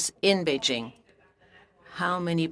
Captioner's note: speaking french